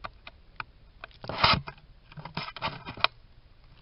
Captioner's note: shaking noise